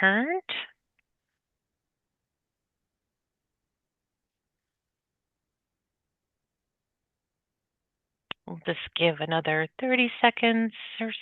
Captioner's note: pause